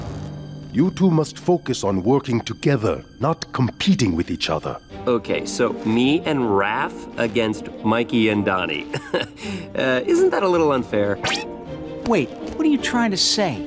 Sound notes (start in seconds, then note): 8.9 chuckles